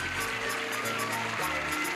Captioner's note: clapping